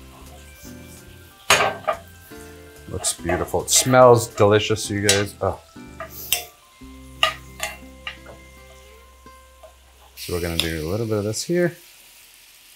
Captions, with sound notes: [metal clanking] Looks beautiful. It smells delicious you guys. [metal clanking] So we're gonna do a little bit of this here.